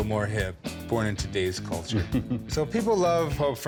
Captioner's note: chuckles